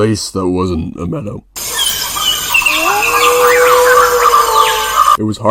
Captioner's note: creepy bush sounds